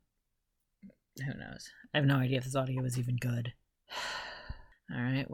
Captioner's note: sigh